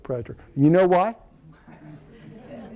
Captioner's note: laughter